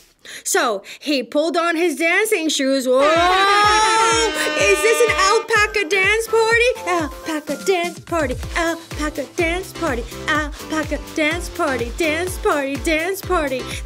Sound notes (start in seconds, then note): 3.0 horns blast!